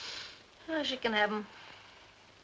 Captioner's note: sighs